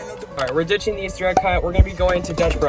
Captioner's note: mouse Click; music stops; pop